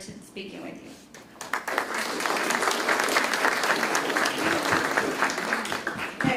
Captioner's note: applause